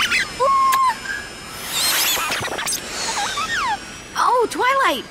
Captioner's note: drone beeping